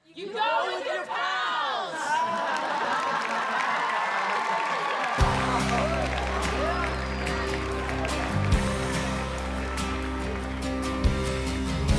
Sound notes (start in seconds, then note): 2.1 audience laughing; 3.6 audience applauding; 5.2 upbeat pop music